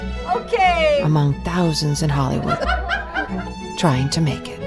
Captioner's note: laughter